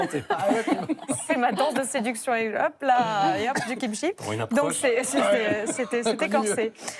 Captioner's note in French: rires